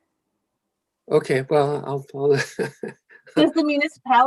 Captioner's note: laughing